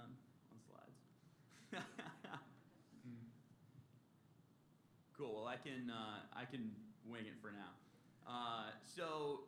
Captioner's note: laughter